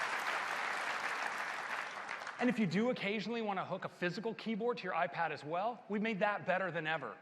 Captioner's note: applause